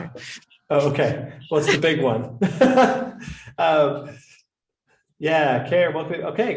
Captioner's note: laughter